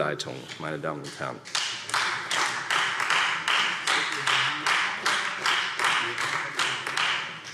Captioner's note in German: Beifall